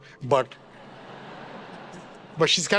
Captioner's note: attendees laughing